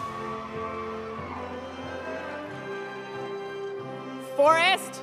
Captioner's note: audience cheering; audience applauding